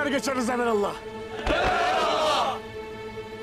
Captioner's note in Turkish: Hep bir ağızdan